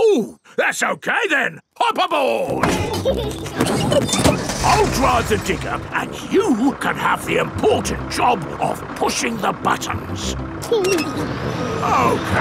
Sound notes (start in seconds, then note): 2.6 peppa and george laughing